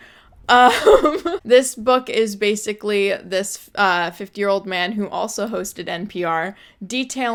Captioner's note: laughs